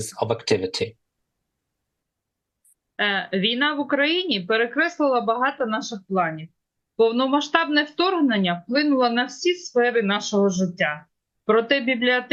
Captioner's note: foreign language